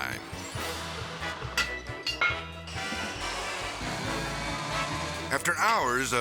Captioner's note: tools clanking and whirring